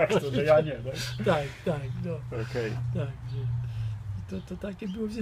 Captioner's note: laughter